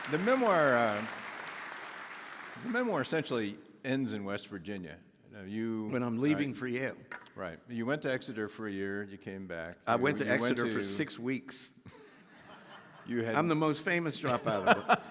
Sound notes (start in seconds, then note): 12.4 audience laughing